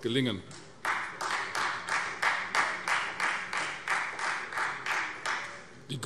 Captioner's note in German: Beifall Freie Demokraten